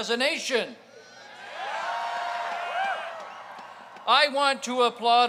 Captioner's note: crowd cheers